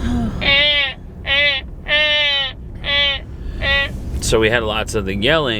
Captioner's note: babbling